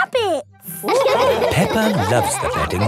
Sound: all laughing

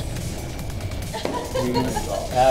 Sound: laughter

